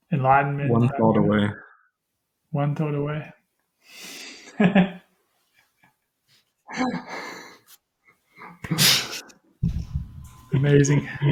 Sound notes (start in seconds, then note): 4.4 laughter